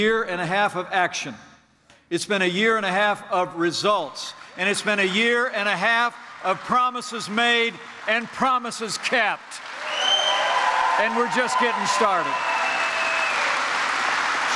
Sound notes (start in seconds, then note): 7.7 applause